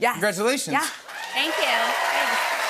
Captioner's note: cheers and applause